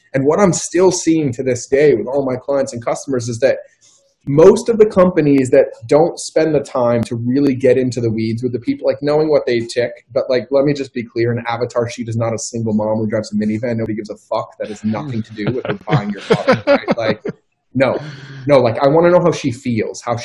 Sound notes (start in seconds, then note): 16.0 laughing